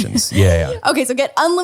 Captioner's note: laughs